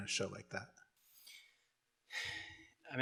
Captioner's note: exhales